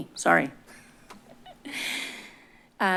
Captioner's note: distant laughter